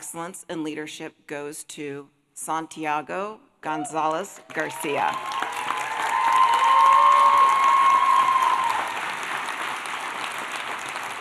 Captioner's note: applause